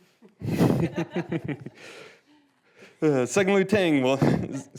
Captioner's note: people laughing